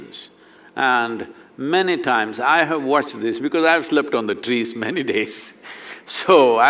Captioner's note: laughs